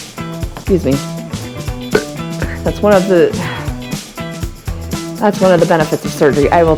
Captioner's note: burp